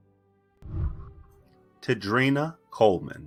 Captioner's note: whooshing